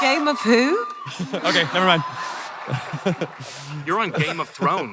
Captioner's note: chuckles